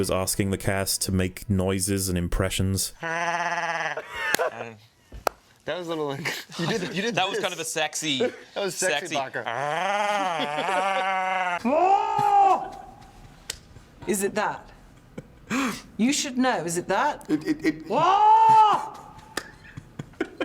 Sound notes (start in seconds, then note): 3.0 mating call; 9.7 more animal noises; 11.6 the sound of Hell